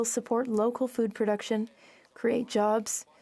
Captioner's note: speaking French